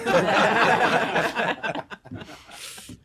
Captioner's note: laughter